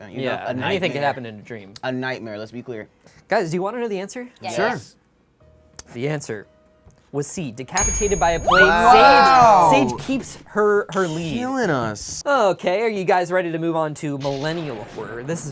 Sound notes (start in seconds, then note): 7.8 bell dings; 8.0 cheering